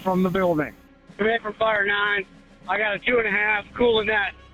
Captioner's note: radio traffic- Fire 9